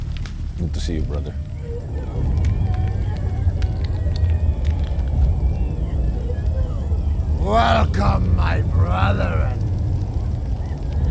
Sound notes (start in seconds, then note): 2.4 dramatic music; 2.4 woman whimpering